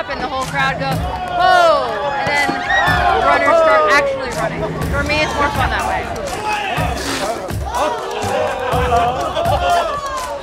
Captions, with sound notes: and the whole crowd goes, "Whoah!" - [Crowd] Whoah! - And then the runners start actually running. - For me, it's more fun that way. (crowd heckling)